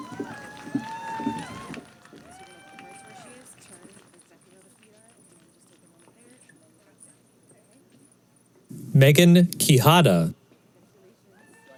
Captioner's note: cheering